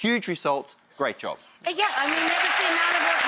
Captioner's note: crowd applauds